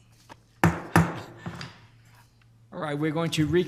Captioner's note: gavel bangs